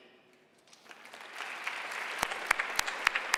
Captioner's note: loud applause